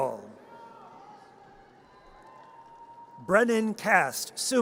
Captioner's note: audience cheers